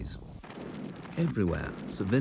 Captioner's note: cannon blasts